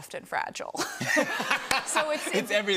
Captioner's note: laughter